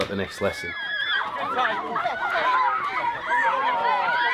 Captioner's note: children cheering